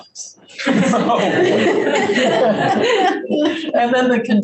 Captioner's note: group laughs